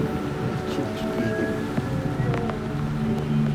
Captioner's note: speaking Spanish